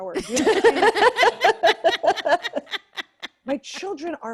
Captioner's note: laughter